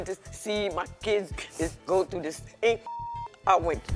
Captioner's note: beeping